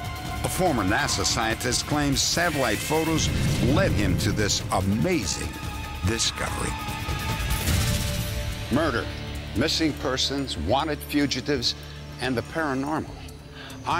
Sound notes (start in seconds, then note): none